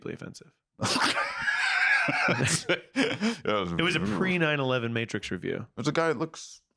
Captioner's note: laughs